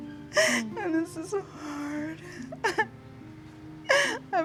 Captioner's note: crying